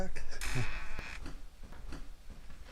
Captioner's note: door creaks